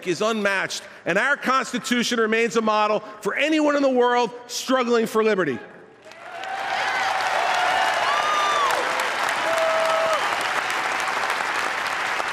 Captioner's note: applause